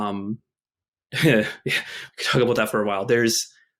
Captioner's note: chuckles